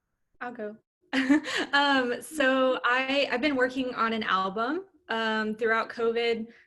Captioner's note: laughter